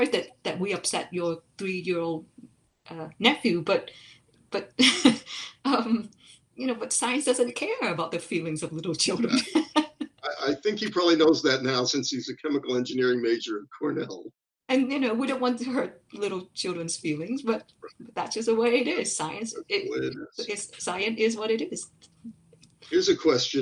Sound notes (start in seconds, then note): 4.8 chuckles